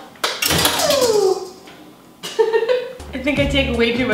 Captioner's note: laughs